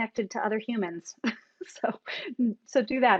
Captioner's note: chuckles